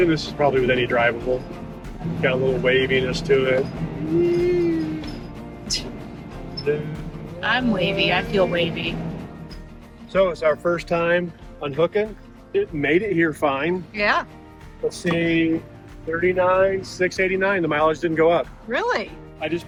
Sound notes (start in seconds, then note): 3.8 hums; 6.0 chuckles